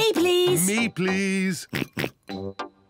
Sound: oinks

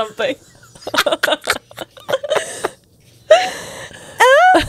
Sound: panel laughing

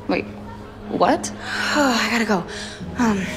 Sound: sighs

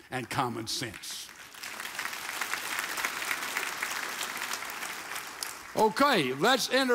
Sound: audience applauds

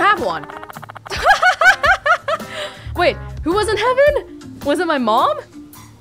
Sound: chuckles

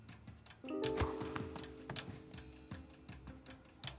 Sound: ball bouncing

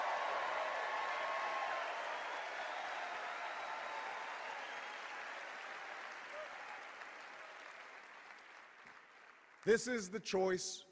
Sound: cheers and applause

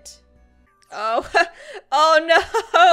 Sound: laughs

